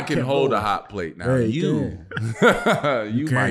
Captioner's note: laughing